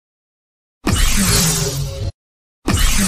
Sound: Ignites Lightsaber

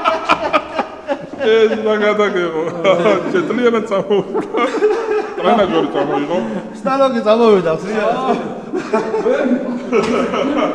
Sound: laughs

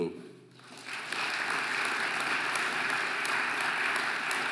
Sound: audience applauding

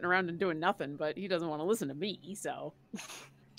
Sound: laughs

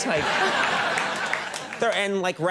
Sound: audience laughing

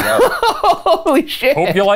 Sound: laugh

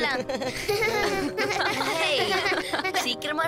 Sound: laughing

